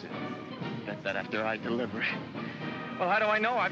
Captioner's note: chuckles